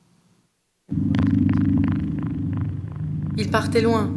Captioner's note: engine hum; non-english speech